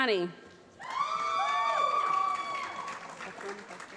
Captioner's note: applause